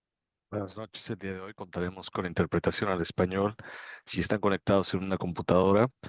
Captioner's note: spanish interpreter speaking Spanish